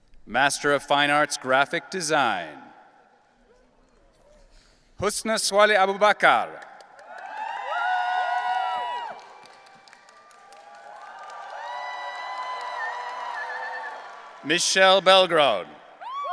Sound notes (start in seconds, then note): 7.1 audience cheering